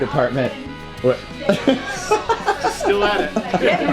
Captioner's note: laughing